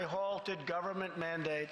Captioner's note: applause